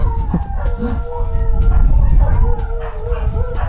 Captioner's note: dogs howling